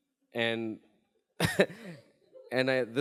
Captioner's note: chuckles